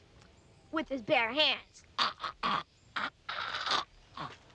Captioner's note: gurgling